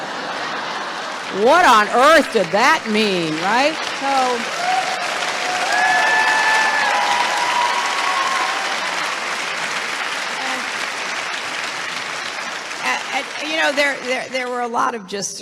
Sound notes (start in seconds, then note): 7.9 applause